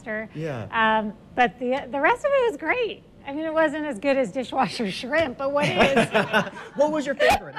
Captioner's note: laughs